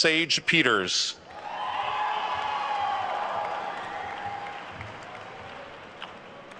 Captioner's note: attendees cheering and applauding